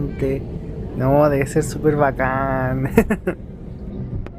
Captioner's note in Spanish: risas